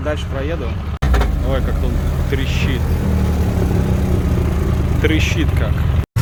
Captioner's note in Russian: Звук рёва мотора